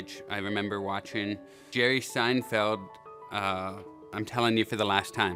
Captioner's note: none